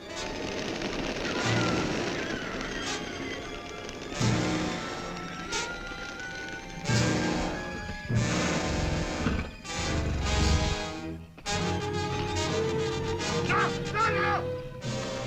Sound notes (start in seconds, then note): 0.1 tense orchestral music; 1.2 birds screeching; 8.1 lion grunting; 12.3 tense orchestral music